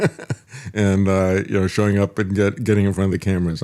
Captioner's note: laughs